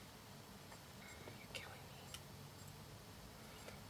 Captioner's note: whispers